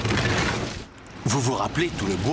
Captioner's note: thud!